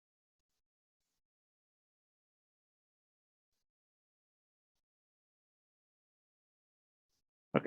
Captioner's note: pause